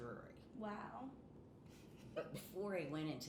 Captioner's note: laughing